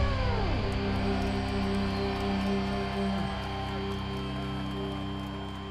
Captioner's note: cheering and applause